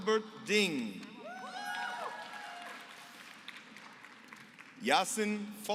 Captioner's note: applause